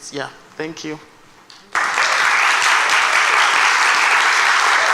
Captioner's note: applause